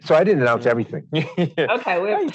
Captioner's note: laughs